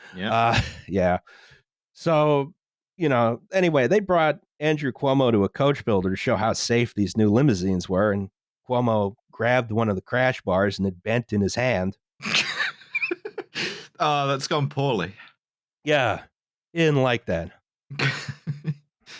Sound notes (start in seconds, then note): 12.2 laughs; 17.9 laughs